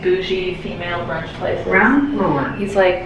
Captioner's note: elevator Voice